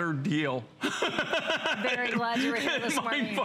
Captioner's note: laughter